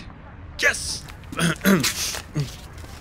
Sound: ahem; paper rustling

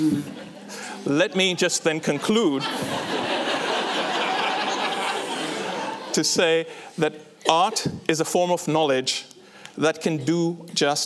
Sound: laughter

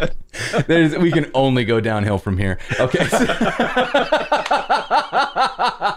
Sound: laughter

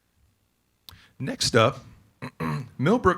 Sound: clears throat

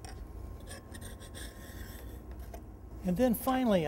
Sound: plane iron scraping down edge banding

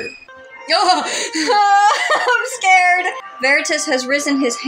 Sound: nervous Laugh

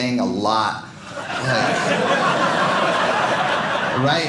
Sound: audience laughing

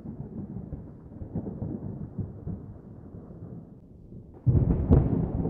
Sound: thunder

